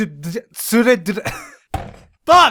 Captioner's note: wheeze laugh while hitting the desk